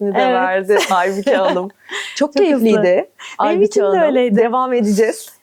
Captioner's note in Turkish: kahkaha